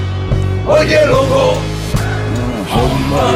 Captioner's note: non-english speech